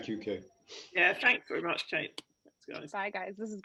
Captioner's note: bell